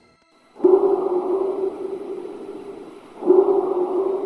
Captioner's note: creature vocalizing